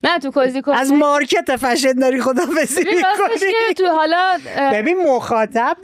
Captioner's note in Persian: خنده